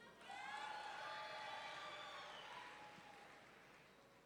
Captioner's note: audience cheering